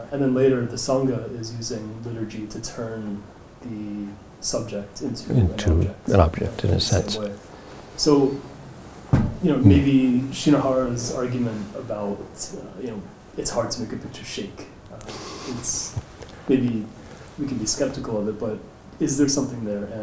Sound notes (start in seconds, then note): 15.3 chuckles